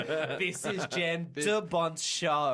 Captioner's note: laughing